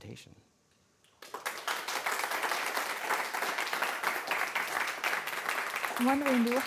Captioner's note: applause